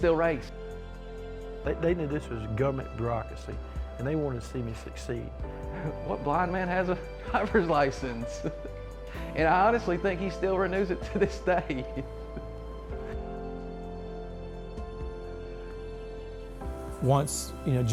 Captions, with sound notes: Like, oh my gosh, we can still race. - They knew this was a government bureaucracy, and they wanted to see me succeed. - What blind man has a driver's license, [laughs] and I honestly think he still renews it to this day. [symphony music]